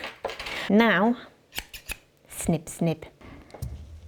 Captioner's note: scissor noises